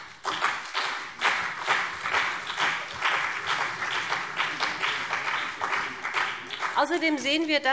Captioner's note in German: Beifall BÜNDNIS 90/DIE GRÜNEN und vereinzelt CDU